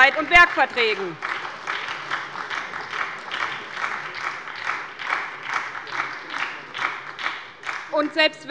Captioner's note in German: Beifall bei der SPD